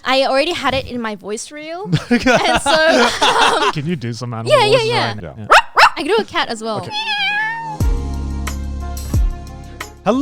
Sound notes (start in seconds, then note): 1.9 everyone laughing; 5.4 imitates dog barking; 6.8 imitates cat meowing; 7.8 soft music